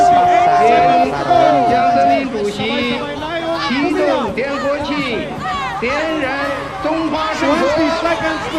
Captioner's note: man says a few words in Chinese